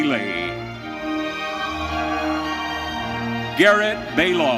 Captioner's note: audience cheering